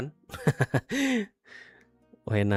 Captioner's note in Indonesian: tertawa; terkesiap